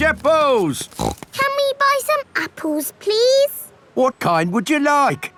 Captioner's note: snorts